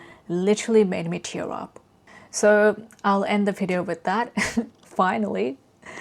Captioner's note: laughs